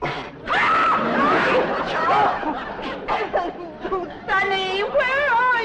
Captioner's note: Mrs. Drysdale screams